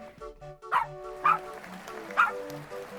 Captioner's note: clapping; dog barking